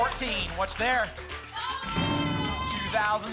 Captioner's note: cheering